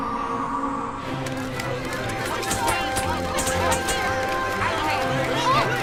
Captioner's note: applause and chatter